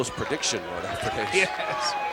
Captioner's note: laugh